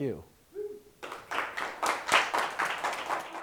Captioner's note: applause